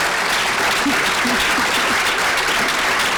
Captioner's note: applause